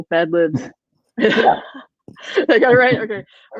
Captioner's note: laughing